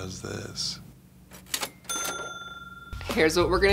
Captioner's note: cha-ching